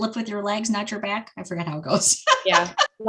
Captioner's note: laughing